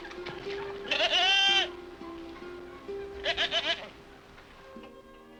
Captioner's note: goat bleating